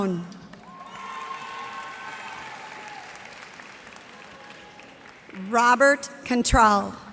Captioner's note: cheers and applause